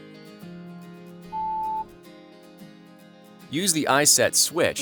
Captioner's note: electronic Beep